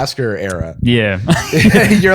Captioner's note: laughter